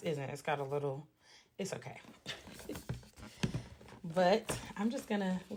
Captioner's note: loughs